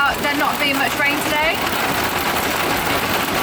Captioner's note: none